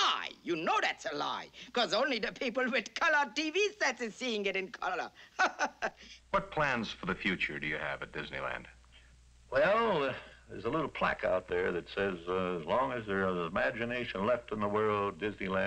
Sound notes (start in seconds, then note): 3.5 chuckles